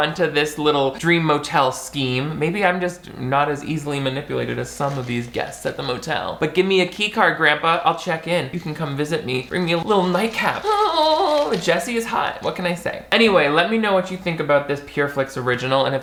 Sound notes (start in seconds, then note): 10.0 moans